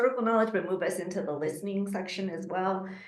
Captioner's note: speaking Quechua